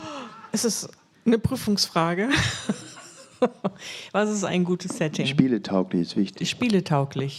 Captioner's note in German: gelächter